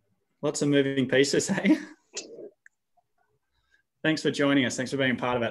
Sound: laughs

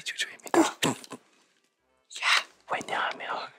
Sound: laughs

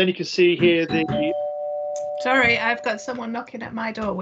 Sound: sound of a doorbell and knocking

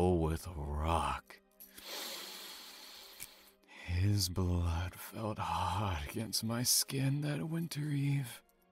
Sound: deep satisfied inhale

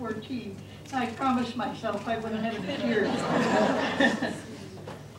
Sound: laughter

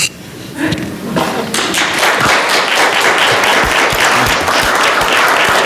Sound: audience applauding

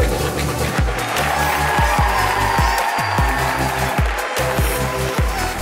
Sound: audience cheering

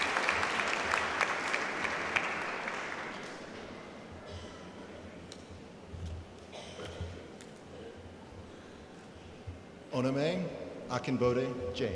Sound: applause

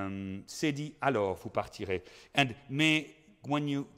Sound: speaking in foreign language

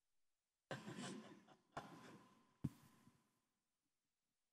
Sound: laughter

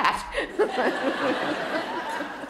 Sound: laughter

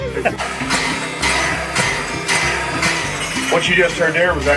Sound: laughing; clanging and hissing

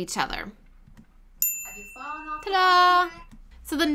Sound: bell ringing

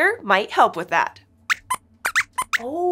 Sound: squeaks squeaks

